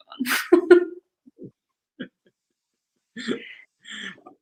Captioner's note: both laugh